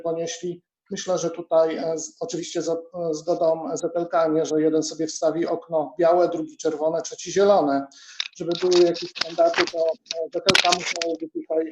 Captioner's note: rustling